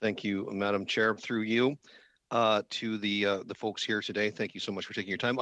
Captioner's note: speaking French